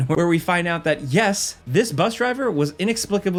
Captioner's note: none